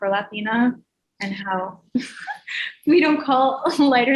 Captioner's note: chuckles